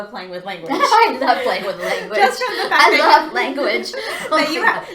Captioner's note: laughter